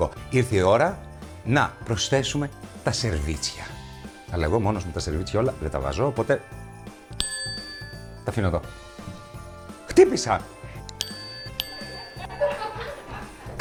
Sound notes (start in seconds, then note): 7.1 bell ringing; 10.9 bell ringing; 11.7 laughs